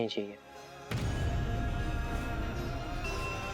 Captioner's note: poignant vocalisation